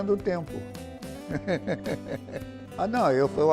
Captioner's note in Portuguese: risos